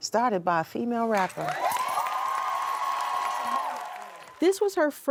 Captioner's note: crowd cheers